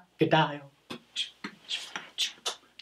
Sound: beatboxing; smacking a kiss

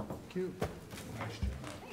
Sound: gavel

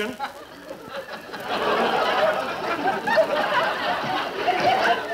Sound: audience laughing

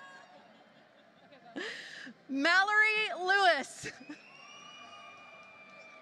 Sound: laughter

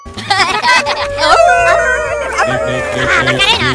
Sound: Minions Laughing; Minions Howling

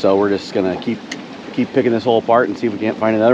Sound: water flowing

